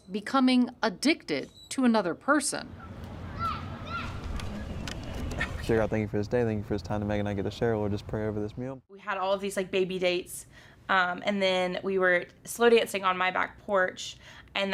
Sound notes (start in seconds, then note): 2.7 children shout in distance